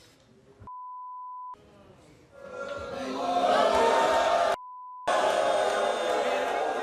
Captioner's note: audience boo's